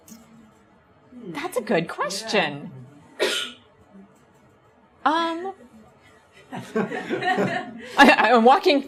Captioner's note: audience laughs